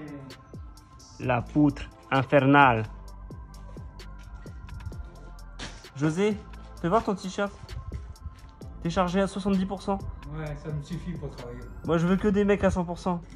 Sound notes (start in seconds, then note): 1.9 with an iberic accent